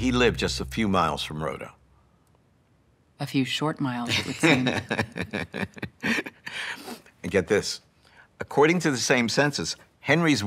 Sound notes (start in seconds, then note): 5.6 laughs